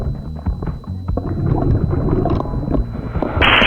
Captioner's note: water burbling